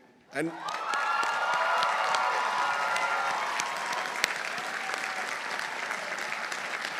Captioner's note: audience applauding; audience cheering